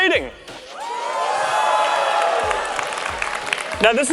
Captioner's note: audience cheers